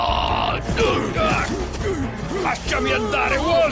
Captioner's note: yelling; both grunting